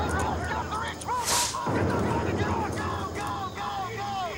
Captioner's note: explosion booming; all shouting